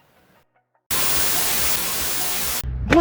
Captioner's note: tv static sound